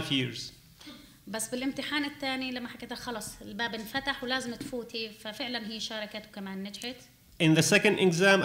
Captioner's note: speaking arabic